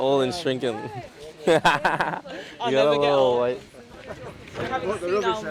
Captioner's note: laughs